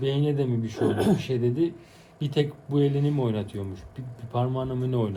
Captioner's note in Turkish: boğazını temizler